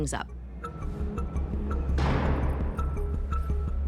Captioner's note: cell door shuts